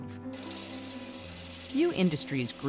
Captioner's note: saw buzzing